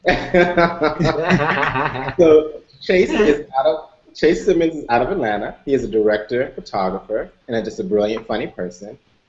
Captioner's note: laughter